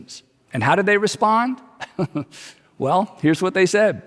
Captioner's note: chuckles